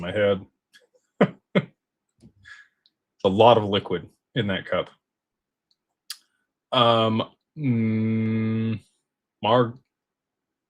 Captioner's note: laughter